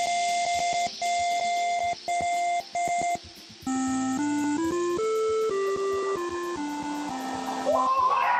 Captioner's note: beeping; cheers and Applause